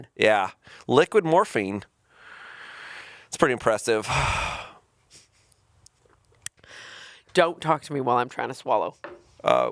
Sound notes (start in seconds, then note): 4.0 sighing